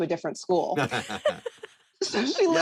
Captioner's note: chuckling